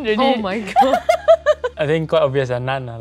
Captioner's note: laugh